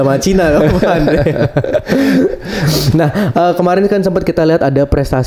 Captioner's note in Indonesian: tertawa